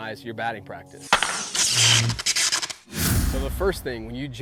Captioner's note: electricity shorting out; baseball bat striking ball; air whooshing